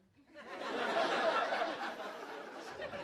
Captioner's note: laughter